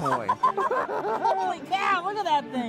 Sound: laughter

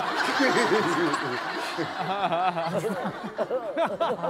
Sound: giggling

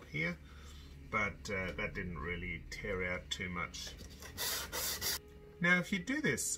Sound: scraping

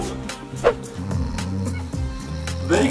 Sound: purple rainbow ghost snoring; marshmallows whooshing

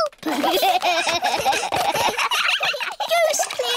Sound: all giggling

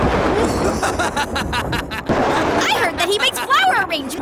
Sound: wicked laughter

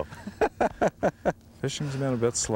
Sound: laughter

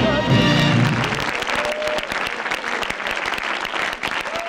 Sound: audience applauding

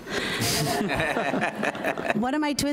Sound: audience laughs

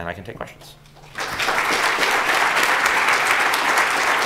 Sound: applause

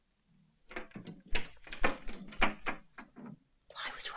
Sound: cabinet doors clattering

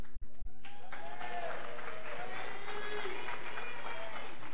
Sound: scholars cheering

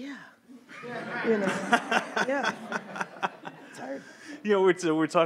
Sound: everyone laughs

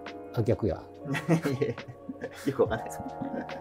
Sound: laughing

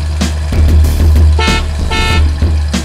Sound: beep beep

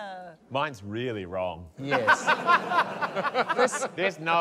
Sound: laughter

